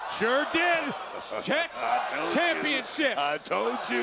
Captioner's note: laughs